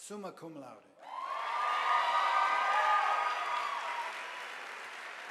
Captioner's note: audience applauding